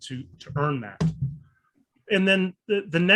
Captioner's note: loud rattling